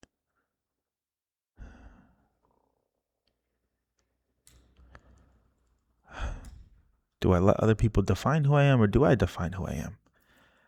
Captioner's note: sighs